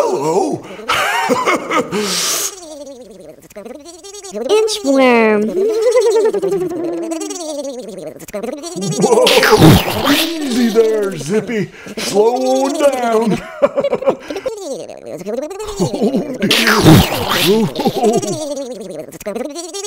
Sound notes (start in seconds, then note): 1.6 inhale; 9.5 explosion; 16.6 explosion